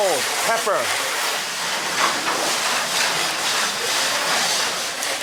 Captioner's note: machinery clattering